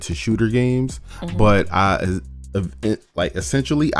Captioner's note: stammers